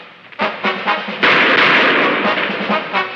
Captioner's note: shots firing